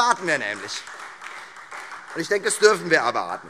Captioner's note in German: Beifall Freie Demokraten und vereinzelt SPD